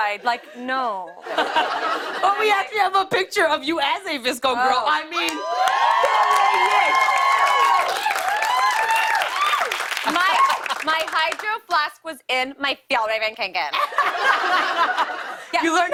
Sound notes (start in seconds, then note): 5.2 cheers and applause; 13.7 laughter